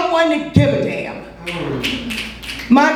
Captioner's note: audience snaps